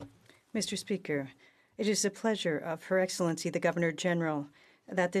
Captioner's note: speaking French